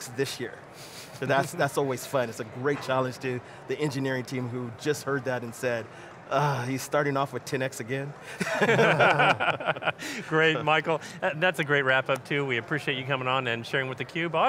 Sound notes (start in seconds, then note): 8.3 laughs